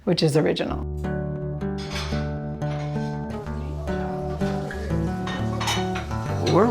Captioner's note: lighthearted guitar music; dishes clattering